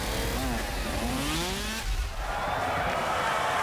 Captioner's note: cheering